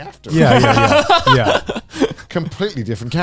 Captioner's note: laughing